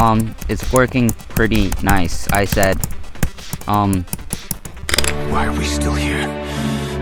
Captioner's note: something breaking